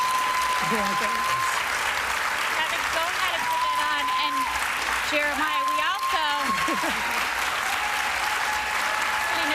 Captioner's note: applause